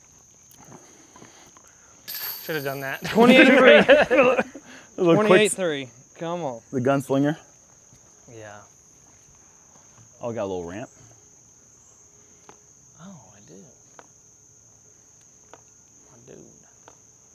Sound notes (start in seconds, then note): 3.0 laughter